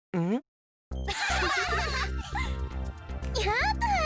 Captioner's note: laugh